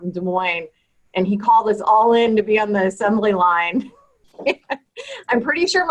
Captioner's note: laughs